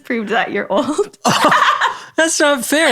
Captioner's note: both laughing